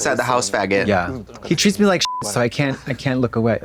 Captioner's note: beep